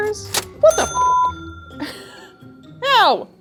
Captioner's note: cash register bell dinging